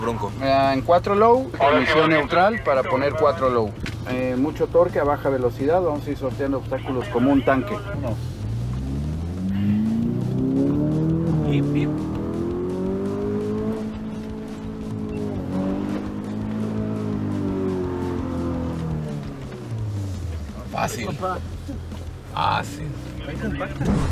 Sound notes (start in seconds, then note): 7.6 engine revving; 7.6 voice on radio